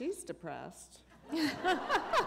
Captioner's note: laughter